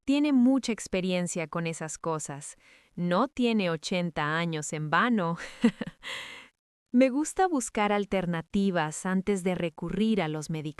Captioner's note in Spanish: risas